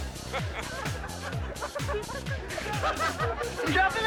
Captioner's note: spectators laughing